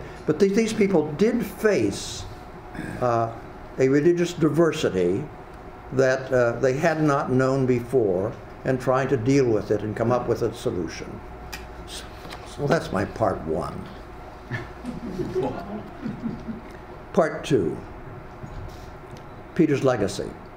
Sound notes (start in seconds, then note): 14.5 audience laughs